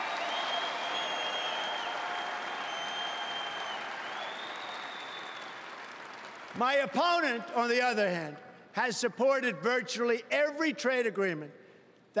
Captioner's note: applause